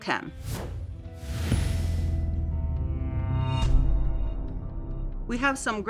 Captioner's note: dramatic music continues; graphics whooshing; soft, upbeat music